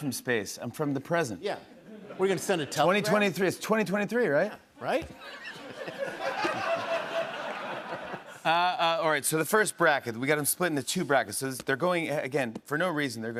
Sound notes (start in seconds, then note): 5.2 laughter